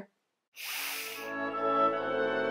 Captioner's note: inhales